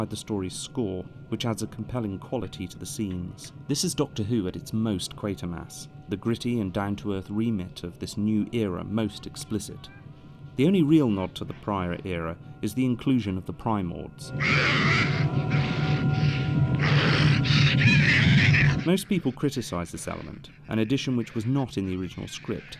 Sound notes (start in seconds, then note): 14.4 animal-like growling